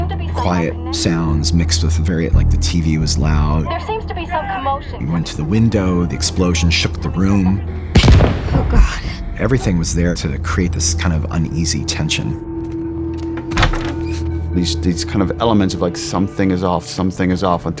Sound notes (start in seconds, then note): 7.9 gunshot